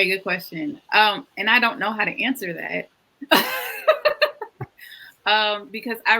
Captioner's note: laughs